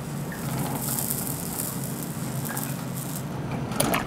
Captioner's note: quiet sizzling